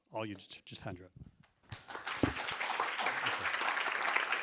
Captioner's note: applause